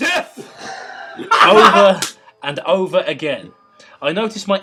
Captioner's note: laughter